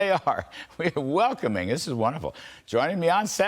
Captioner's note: laughter